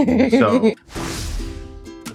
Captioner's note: laughing